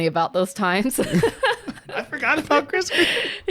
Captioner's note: both laughing